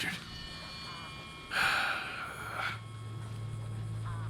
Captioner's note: sighs